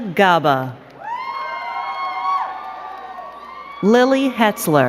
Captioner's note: crowd cheering and clapping